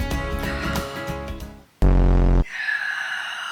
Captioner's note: upbeat music; buzzer